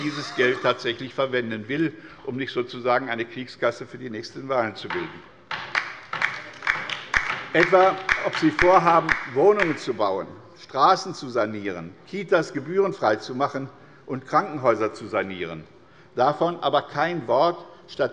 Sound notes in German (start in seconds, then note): 5.7 Beifall bei der LINKEN